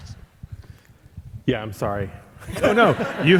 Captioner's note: all laughing